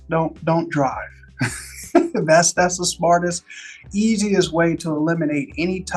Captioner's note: laughs